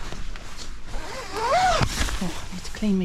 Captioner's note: zipper